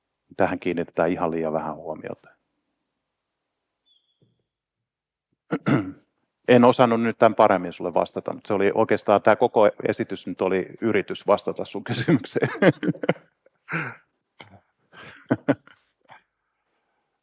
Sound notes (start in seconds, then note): 12.0 laughs; 15.0 chuckles